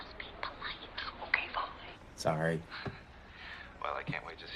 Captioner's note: Rosemary whispering; whispering